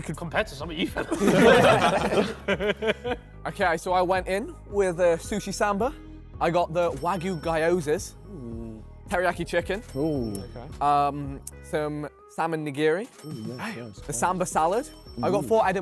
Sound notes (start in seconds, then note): 0.8 men laughing